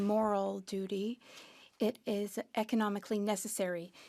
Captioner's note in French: voix de l'interprète